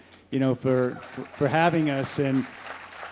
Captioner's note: crowd applauds